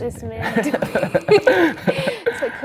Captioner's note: laughs